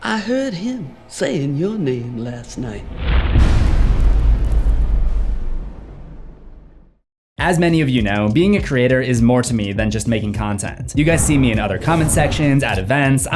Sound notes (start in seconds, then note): 2.9 impact